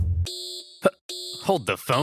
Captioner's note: beeping